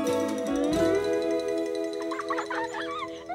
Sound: laughing

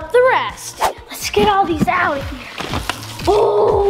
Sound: comic whoosh; boxes rattling

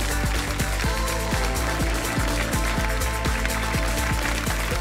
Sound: applause

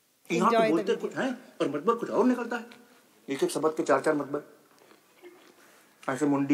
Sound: Bollywood Hindi movie clip playing

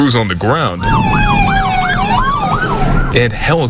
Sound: nat car with siren

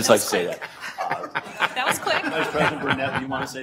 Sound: audience laughter

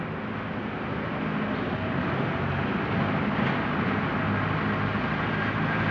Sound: engines roar

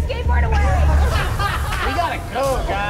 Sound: everyone laughs

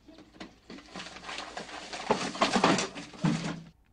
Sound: paper rustling

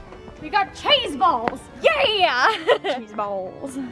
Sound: laughs

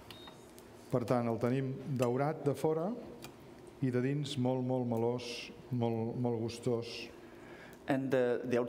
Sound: speaking catalan

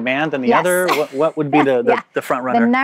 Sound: laughs

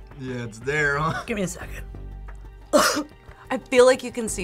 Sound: coughs

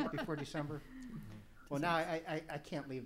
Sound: laughs

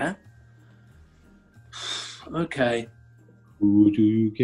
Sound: exhales

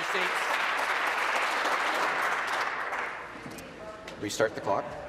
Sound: applause

